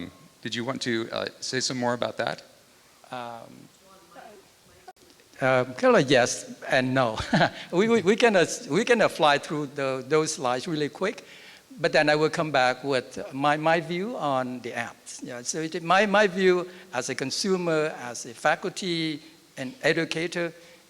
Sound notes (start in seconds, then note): 7.1 laughs